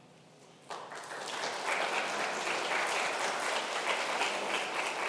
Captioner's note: congregation applauding